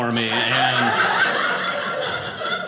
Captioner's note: audience laughing